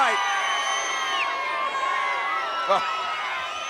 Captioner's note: audience cheering